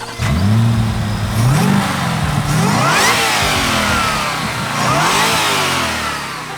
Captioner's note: engine revs